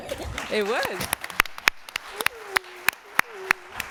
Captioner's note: applause